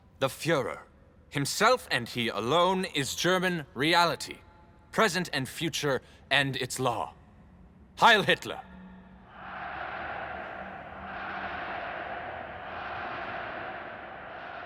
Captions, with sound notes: The führer himself, and he alone, is German reality-- present and future-- and its law. Heil Hitler! [crowd shouting] Heil! Heil! Heil!